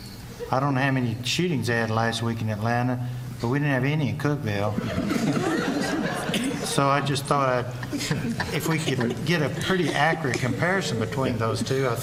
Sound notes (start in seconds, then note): 4.7 laughter